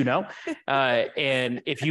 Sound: laughing

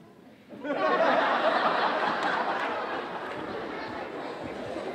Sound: audience laughing

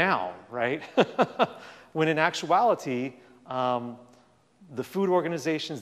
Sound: laughs

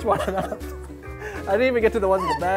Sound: laughing

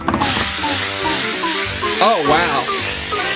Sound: upbeat music; spraying

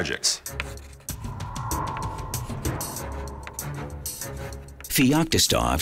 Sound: chalk scratching; intense music

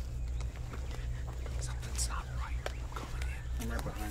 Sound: whispers

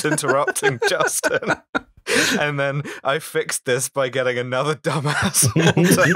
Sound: laughter

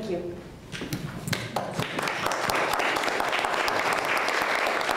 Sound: applause

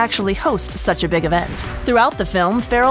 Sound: air whooshing

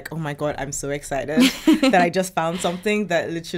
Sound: laughs

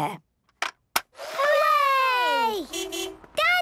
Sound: distant beeping

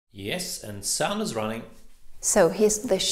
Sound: voice-over

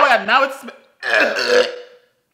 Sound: harsh coughing; coughing and gagging

